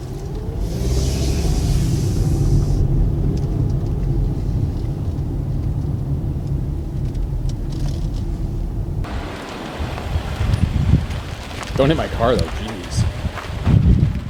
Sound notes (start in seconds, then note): 10.0 gravel crunching